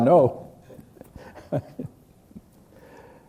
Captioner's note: laughs